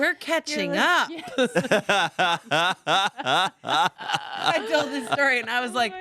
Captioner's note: everyone laughs